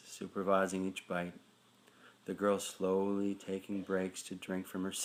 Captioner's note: none